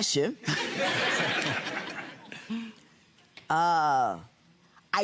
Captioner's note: audience laughing